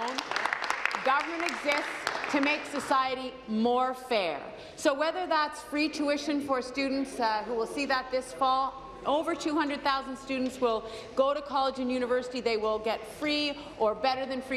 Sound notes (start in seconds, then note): 3.6 applause